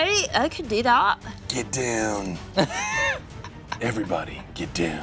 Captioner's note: laughs